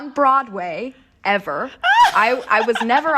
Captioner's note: laughter